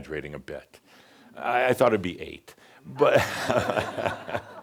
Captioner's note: laughter